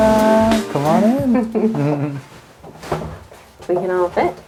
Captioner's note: laughs